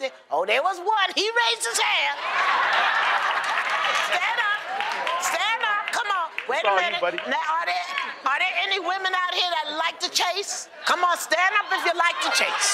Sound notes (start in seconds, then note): 2.2 laughter; 2.5 applause